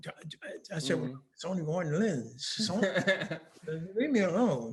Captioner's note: laughing